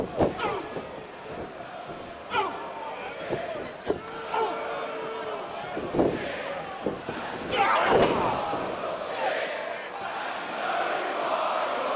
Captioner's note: crowd cheering